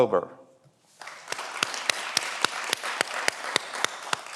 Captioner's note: everyone applauds